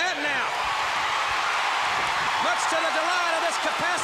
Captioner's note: crowd cheering